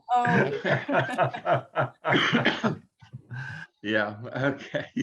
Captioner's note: everyone laughing